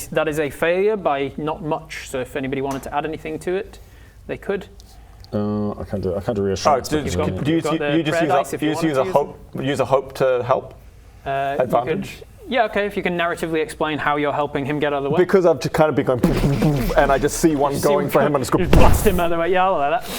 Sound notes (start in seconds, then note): 16.4 boof boof boof